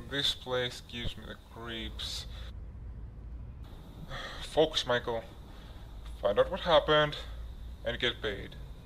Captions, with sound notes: This place gives me the creeps. *sigh* Focus Michael, find out what happened and get paid.